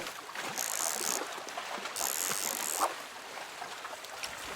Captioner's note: fishing rod cranking